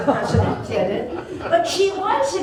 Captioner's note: laughter